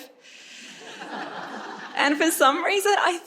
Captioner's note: audience members chuckle